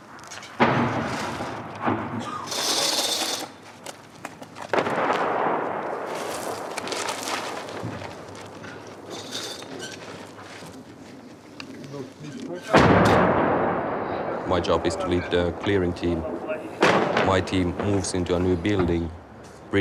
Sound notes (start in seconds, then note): 0.6 rocket exploding; 2.2 metal rattling; 4.8 rocket exploding; 11.8 men speaking faintly; 12.8 rocket exploding